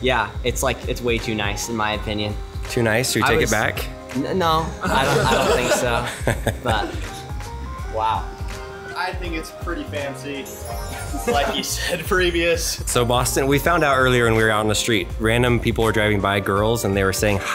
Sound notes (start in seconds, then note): 4.9 everyone laughs